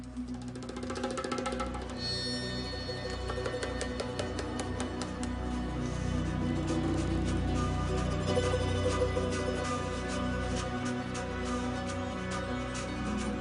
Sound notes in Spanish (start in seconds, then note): 0.6 Chisporroteo del fuego